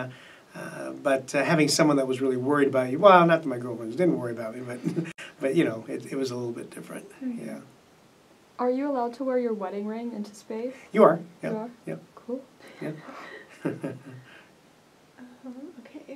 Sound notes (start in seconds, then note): 4.6 laughs; 15.4 laughs